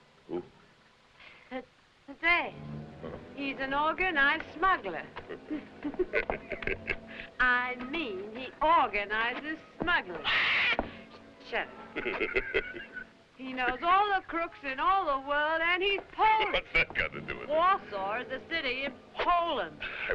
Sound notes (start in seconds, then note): 5.1 both chuckling; 10.1 bird screeching; 11.9 chuckling